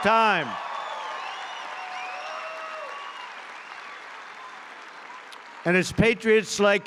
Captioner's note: applause